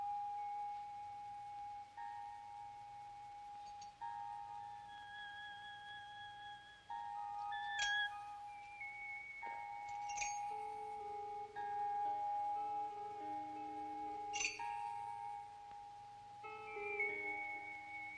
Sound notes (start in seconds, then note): 11.8 eerie music; 14.5 dishware clinking